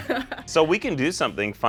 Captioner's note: laughs